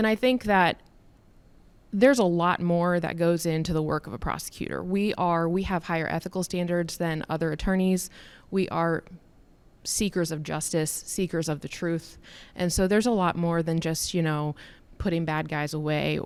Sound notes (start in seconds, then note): none